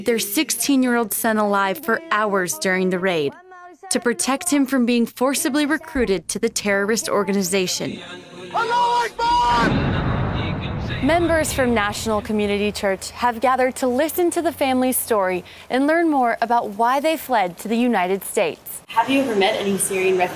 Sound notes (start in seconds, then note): 10.2 yelling